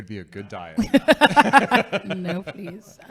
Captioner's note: laughing